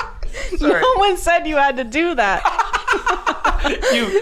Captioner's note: laughing; laughing